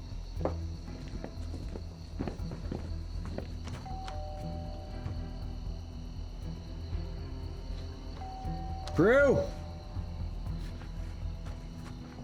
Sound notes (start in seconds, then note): 0.3 footsteps; 3.9 rings doorbell; 8.2 rings doorbell